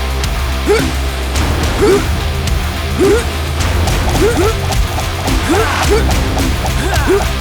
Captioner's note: intense music; fighters grunting